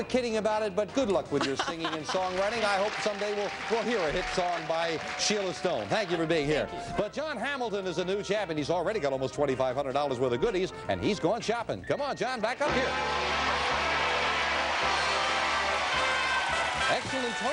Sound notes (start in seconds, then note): 10.5 applause; 10.5 theme music playing